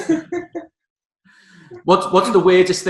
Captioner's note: giggling